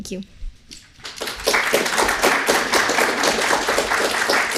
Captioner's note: audience applauding